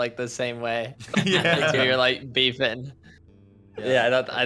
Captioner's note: laugh